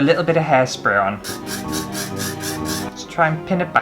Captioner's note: hairspray Spraying